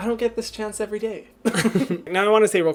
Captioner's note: laughing